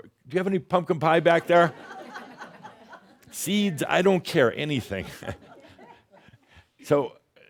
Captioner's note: more laughter; chuckles